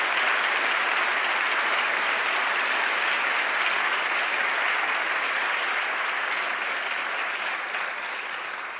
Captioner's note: applause